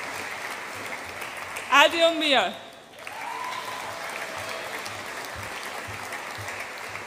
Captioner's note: audience applauds and cheers